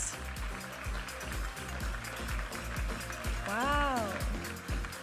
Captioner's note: audience applauding